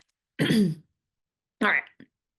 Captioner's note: clears throat